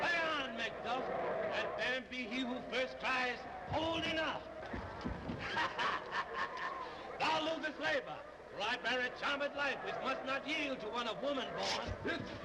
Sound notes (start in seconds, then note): 5.3 laughs